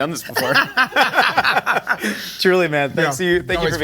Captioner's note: they laugh